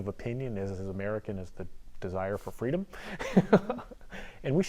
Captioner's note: laughs